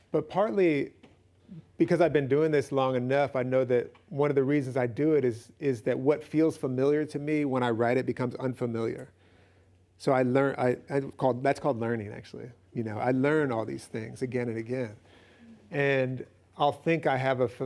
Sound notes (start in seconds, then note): none